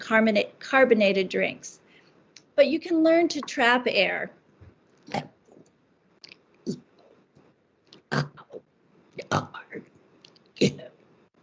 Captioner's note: sound of trapped air or burping